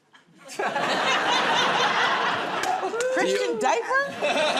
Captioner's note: laughter